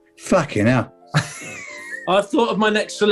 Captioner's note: sniggering